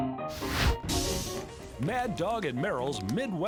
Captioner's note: fire whooshes; branding iron sizzling